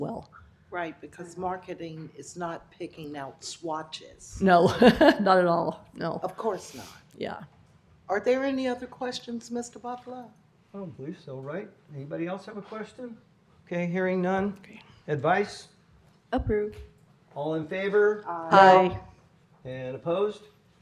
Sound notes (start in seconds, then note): 4.6 laughter